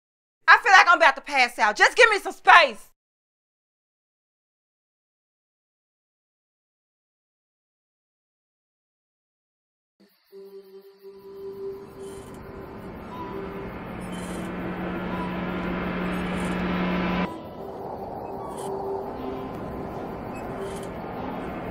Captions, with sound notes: I feel like I'm about to pass out, just give me some space. (foreboding minimal music) (wind gusting) (metal squeaking)